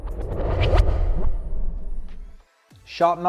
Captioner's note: transition whooshes; upbeat music